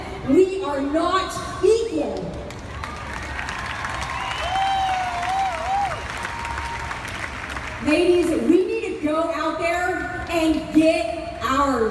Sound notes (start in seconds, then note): 2.6 crowd cheers